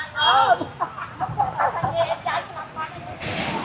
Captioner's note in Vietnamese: tiếng cười